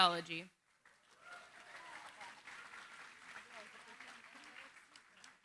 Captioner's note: applause